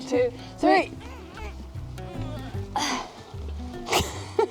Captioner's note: grunting